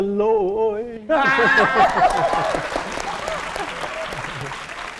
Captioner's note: applause and cheering